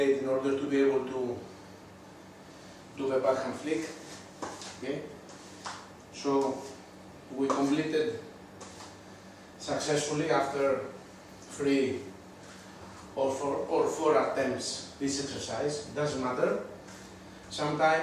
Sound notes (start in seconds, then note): none